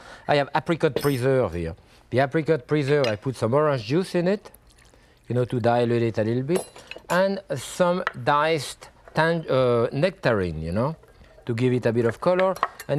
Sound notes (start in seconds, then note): 4.6 orange juice splashes; 12.3 whisk thudding